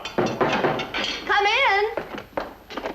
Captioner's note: knocking on door